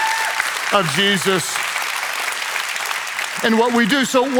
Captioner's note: congregation cheers